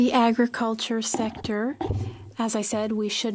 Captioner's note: speaking French